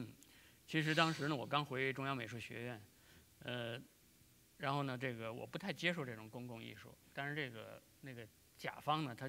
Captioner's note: speaking in Chinese